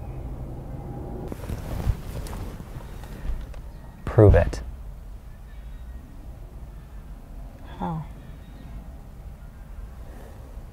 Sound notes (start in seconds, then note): 1.2 car seat rustling